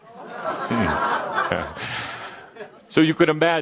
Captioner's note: laughter